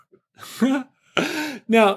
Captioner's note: chuckle